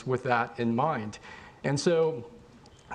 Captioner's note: none